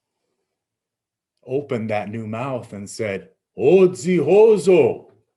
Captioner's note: speaking in Abenaki